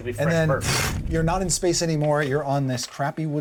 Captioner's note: blows air